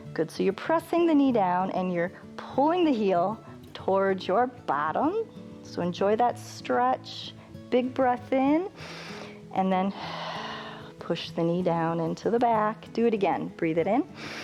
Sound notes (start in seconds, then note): 8.8 inhales